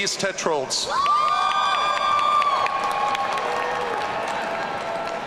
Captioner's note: audience cheering